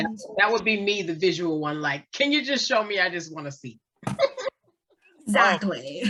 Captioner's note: laughs